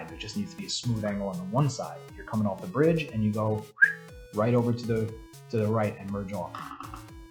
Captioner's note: whistle